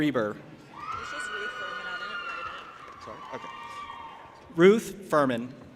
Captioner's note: audience applauding and cheering